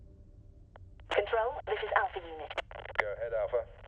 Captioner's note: radio